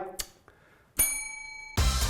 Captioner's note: kissing; bell ringing